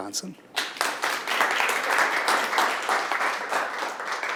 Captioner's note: audience clapping